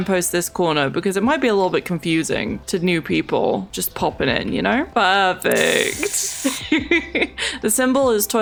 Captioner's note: laughs